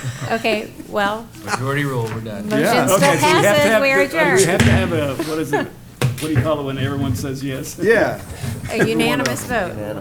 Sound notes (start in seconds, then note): 0.0 laughter; 4.6 bangs gavel